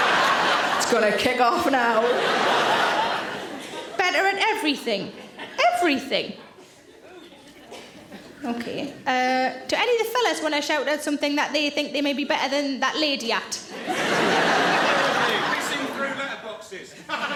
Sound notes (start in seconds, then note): 0.0 audience laughing; 13.7 audience laughing